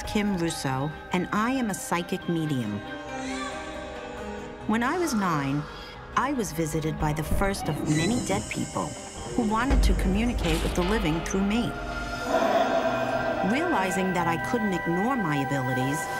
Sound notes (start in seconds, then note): 3.1 baby cries